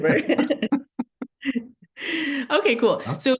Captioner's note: chuckling